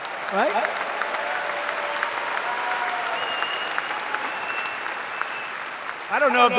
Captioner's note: applause